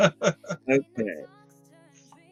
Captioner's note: laughs